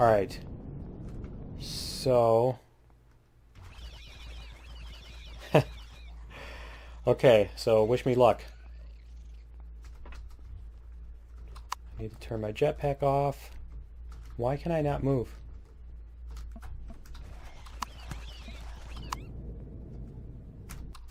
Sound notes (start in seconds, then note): 5.0 laughs